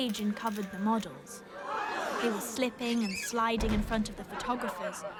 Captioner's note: people gasp